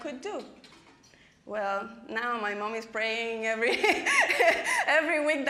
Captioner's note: laughing